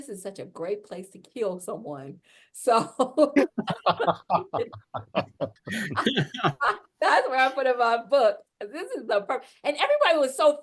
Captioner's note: laugh